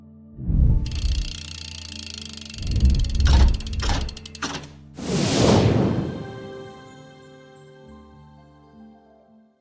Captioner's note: ending animation sounds